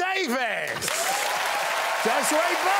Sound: audience applauding

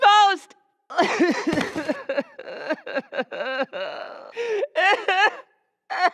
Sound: sobbing

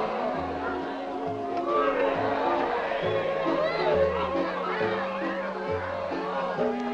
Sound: crowd chattering

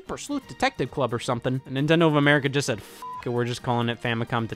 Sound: beep

